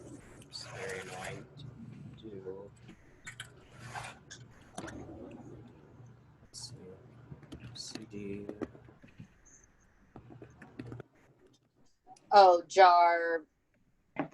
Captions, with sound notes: Its very annoying to do. (murmurs)